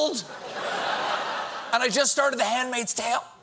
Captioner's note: laughter